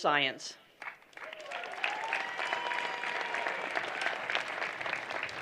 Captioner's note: applause